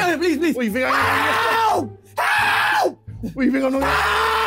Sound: screaming loudly

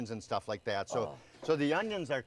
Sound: grunt

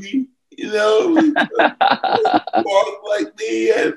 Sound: chuckles

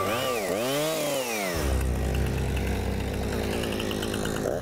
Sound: chainsaw whirs

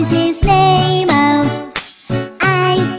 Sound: clap

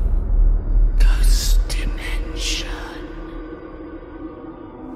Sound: whispering

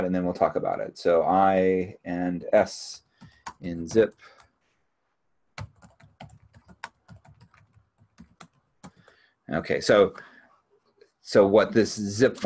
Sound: keyboard clicking

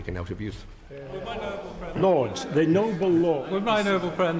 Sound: Lords chatter

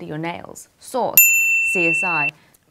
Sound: piercing bip

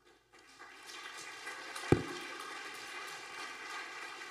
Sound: audience applauding

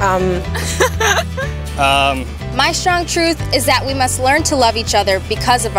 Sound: laughter

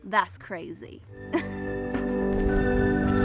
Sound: laughs

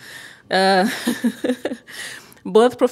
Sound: laughter

